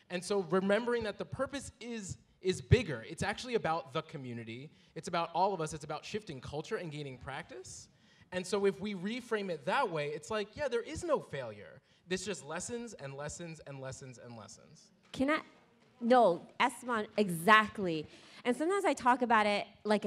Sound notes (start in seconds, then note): none